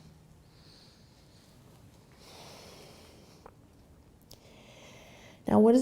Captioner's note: breathing